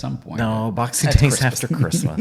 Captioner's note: laughs